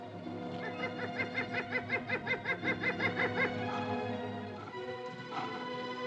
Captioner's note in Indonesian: Tertawa